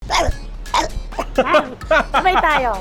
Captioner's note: growls